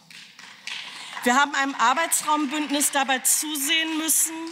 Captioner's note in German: Beifall